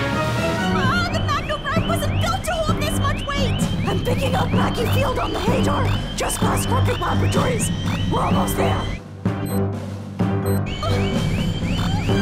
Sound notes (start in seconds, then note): 11.7 yelps